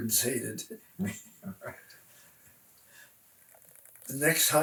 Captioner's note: laughs